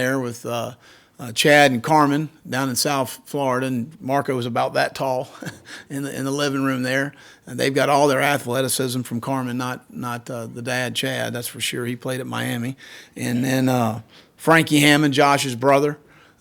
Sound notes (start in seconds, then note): 5.2 laughs